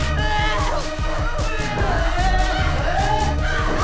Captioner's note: all screaming